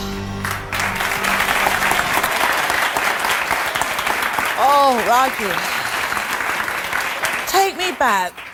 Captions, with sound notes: (audience applause) - Oh Rajee, take me back.